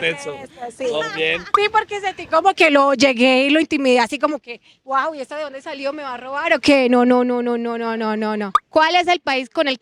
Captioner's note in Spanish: Todos ríen